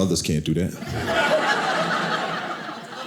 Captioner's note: audience laughing